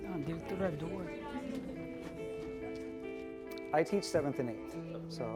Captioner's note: speaking in foreign language